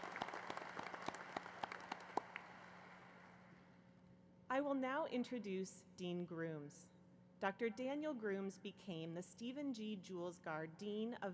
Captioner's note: applause